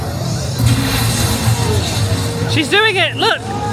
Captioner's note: electricity crackles